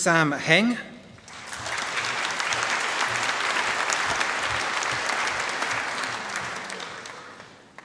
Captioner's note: applause